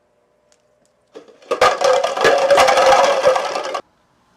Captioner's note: clattering